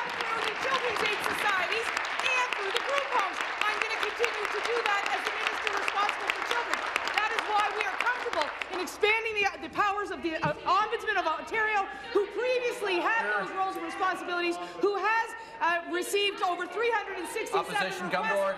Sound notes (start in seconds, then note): 0.0 applause